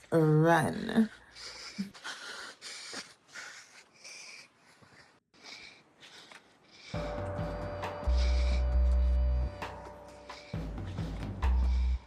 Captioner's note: heavy breathing